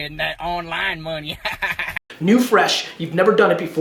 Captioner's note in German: lacht